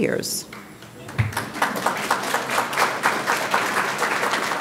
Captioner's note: audience clapping